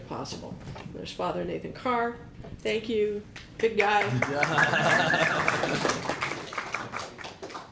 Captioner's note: applause